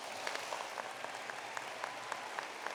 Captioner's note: applause